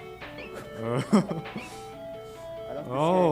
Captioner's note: laughs